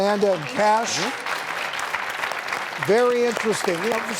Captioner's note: clapping